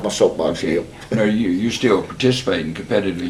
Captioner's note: laughs